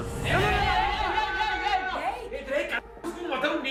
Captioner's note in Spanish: Gritos